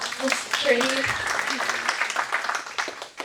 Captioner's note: audience applauding